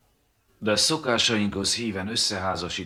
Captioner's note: none